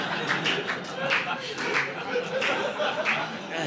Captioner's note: audience laughing